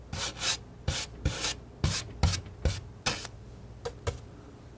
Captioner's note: none